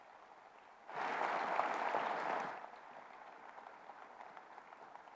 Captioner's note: audience applauding